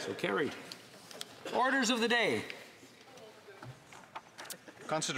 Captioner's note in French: voix de l'interprète